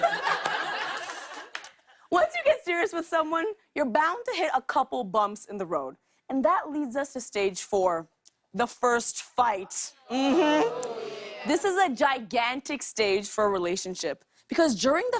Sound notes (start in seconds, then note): 0.0 laughter; 10.1 audience ohs